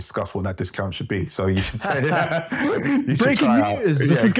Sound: both laugh

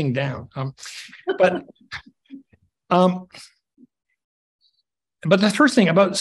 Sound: chuckles softly

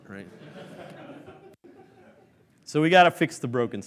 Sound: laughing

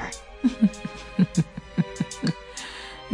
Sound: chuckles

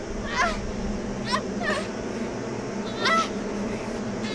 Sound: Morgan groaning

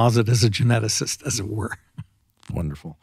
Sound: laughing

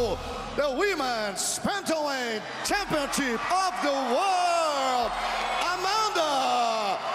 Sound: speaking foreign language

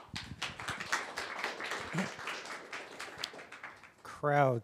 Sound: applause

